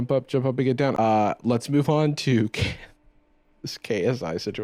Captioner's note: laughs